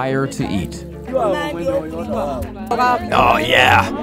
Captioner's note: villagers speaking in a foreign language